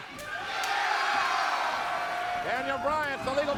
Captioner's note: audience cheering